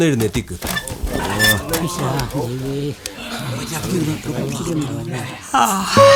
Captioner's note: indistinct chatters